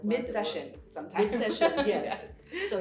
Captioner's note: laughs